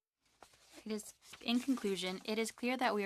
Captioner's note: speaking French